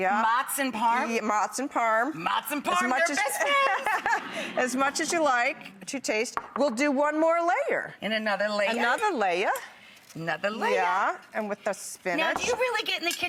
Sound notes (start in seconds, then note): 3.1 laughs; 3.1 Patricia laughs